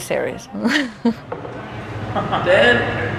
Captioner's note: chuckles